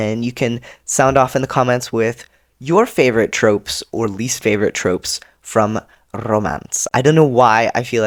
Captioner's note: rolls r